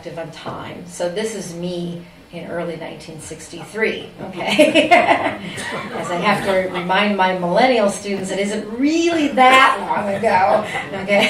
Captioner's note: laughter